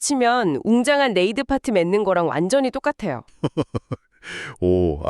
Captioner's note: laughs